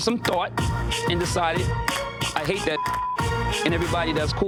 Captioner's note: beep